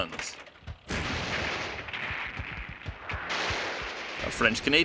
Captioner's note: cannons firing